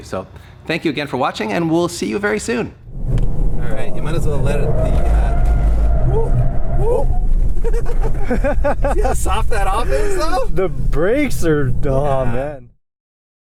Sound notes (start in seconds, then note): 6.2 whooping; 7.6 laughter